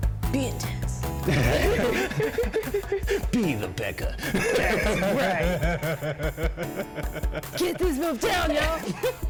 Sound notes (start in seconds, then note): 1.2 both laugh; 4.2 laughs; 9.1 continues laughing